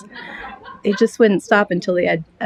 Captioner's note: laughter